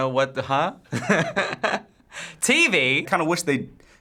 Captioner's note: chuckles